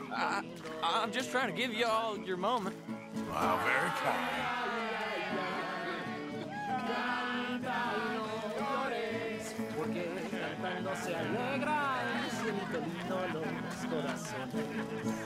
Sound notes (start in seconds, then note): 5.0 in Spanish, and the others repeating